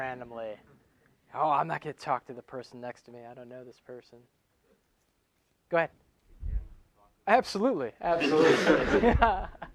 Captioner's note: laughing